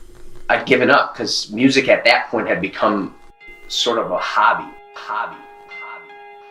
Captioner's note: echo